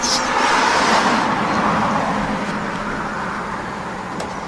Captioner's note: cars roaring